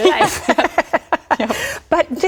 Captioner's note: laughter